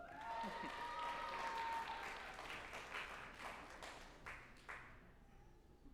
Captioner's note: group applauding and cheering